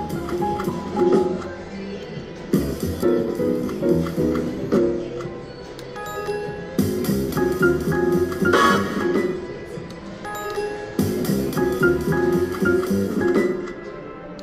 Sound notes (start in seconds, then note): 5.7 bell dings; 6.2 playful jazz music; 9.9 bell dings; 10.3 playful jazz music